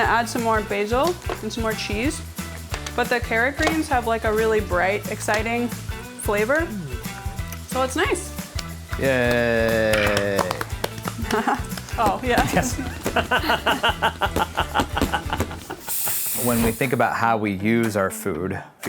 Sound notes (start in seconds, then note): 8.5 clapping; 11.0 laughing; 13.1 fireworks crackling